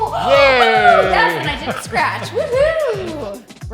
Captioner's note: gasps